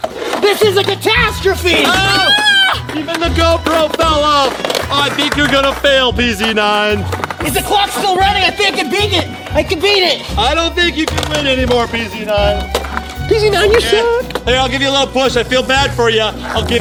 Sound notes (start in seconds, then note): 1.9 screaming